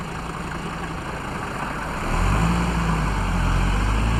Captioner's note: engine rumbling